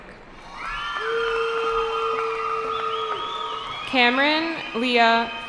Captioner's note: cheering